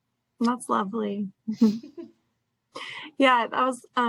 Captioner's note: both laugh